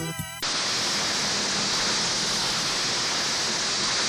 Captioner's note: static crackles